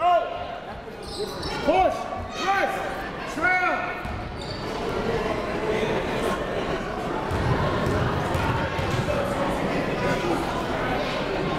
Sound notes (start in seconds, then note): 0.9 crowd talking; 2.2 coaches yelling